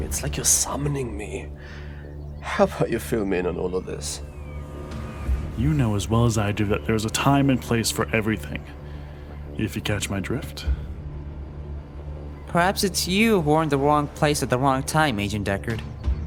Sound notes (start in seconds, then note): none